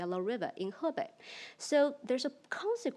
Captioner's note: speaks in foreign language